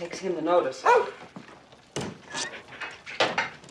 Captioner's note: barking